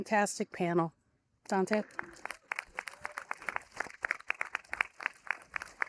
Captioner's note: audience applauding